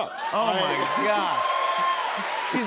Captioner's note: cheers and applause